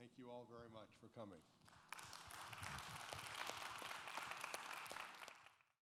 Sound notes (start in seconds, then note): 1.6 applause